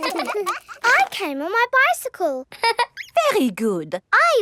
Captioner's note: all laughing; laughs